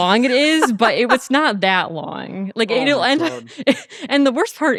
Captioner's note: laughing